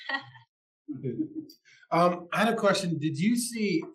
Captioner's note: laugh